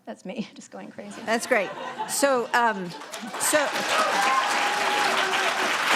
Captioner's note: audience applauding